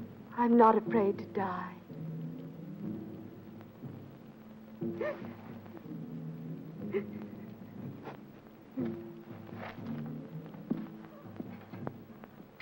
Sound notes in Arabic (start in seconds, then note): 0.0 موسيقى مشؤومة; 4.6 سيلفيا تبكي; 8.6 موسيقى مشؤومة